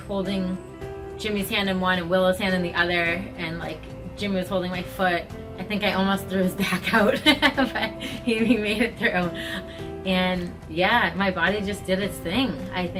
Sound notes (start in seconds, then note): 6.9 laughs gently